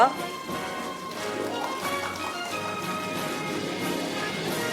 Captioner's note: audience applauding